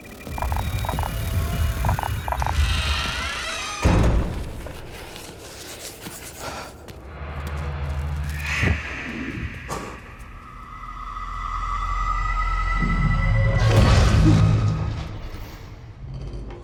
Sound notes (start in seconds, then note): 0.0 meter beeping and crackling; 2.4 door creaking; 4.5 pencil scratching; 7.8 inhuman screech